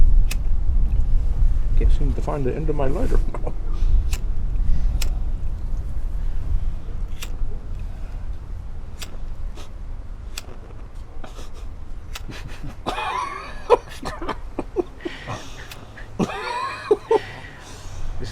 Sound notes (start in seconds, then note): 1.6 in fake British accent; 12.1 laughs